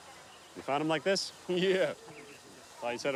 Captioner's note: chuckles